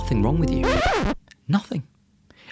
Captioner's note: record scratches